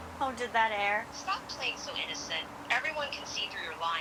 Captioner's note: on phone